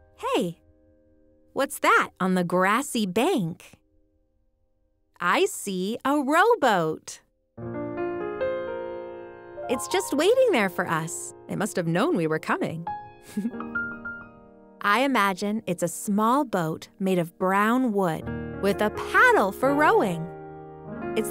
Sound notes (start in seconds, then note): 7.7 soft music; 13.1 laughs